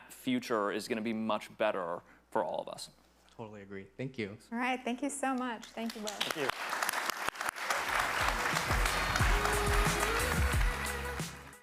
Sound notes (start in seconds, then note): 5.6 attendees clapping; 8.0 upbeat music